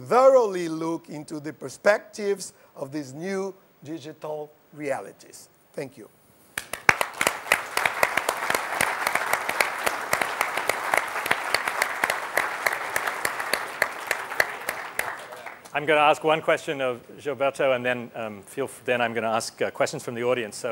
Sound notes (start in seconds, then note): 6.5 applause